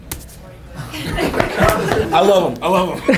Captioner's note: group laughter